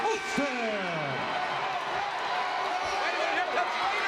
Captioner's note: audience cheers